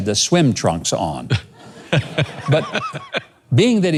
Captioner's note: laughs